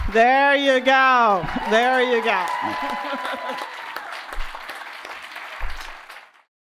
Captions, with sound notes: There you go. There you go. (audience applauding) (audience cheering)